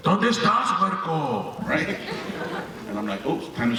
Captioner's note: dad speaking Spanish